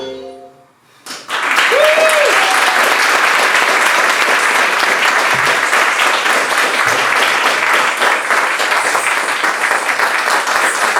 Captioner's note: applause